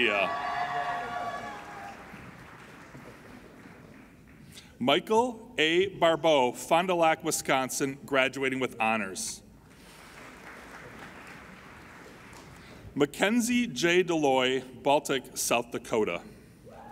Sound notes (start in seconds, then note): 0.0 applauding and cheering; 9.7 applauding